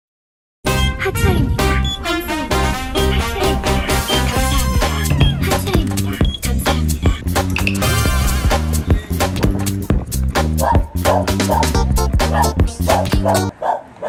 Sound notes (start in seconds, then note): 7.4 running; 10.5 barking